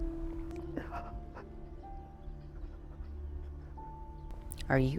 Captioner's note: Arawn whimpering